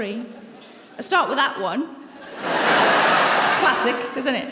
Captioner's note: laughter